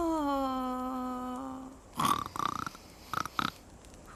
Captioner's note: snorting